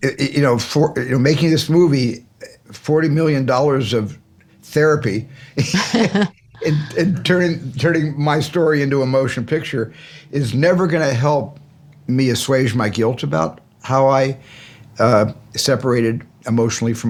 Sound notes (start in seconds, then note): 5.6 laughter